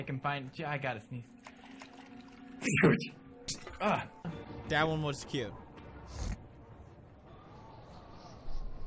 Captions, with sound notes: *cute sneeze* dat one was cute :D